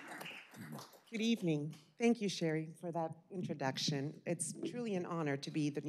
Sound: applause

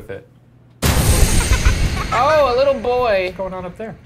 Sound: child laughing

